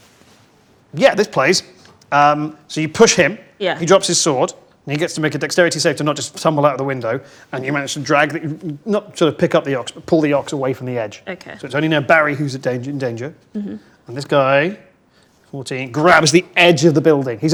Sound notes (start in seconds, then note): none